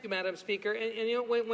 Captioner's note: speaking French